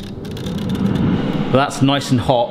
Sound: dial clicking; air fryer whirs into life

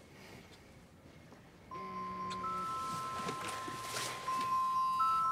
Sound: phone ringing

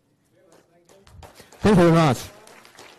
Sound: applause

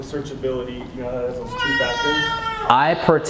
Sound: baby cries

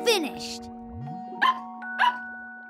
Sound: barking

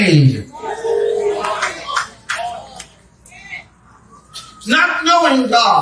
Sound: congregation amens and applauds

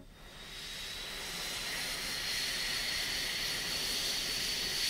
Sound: airplane engine roaring

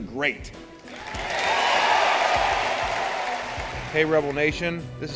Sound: cheering and applause

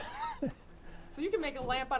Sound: laughs

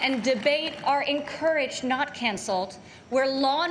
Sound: applause

